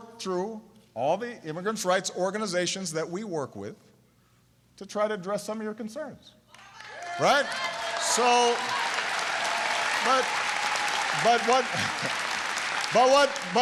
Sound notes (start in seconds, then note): 6.5 applause